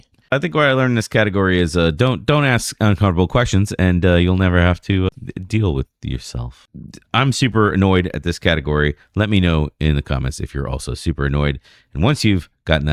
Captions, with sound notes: think learned this category is a don't don't ask uncomfortable questions and [UH] you'll never have to deal with yourself. I'm super annoyed at this category. Let me know in the comments you're also super annoyed. And once you've gotten